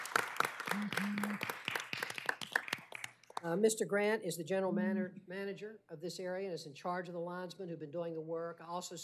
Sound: applause

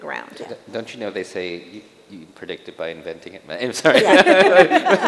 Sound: chuckles

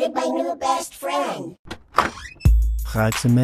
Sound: door open

